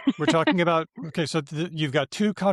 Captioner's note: laughs